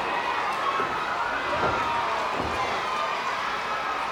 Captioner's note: crowd cheers